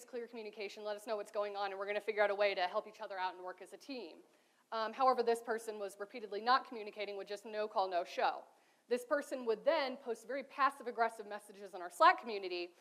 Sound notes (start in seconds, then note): none